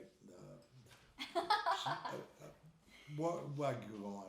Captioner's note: laughing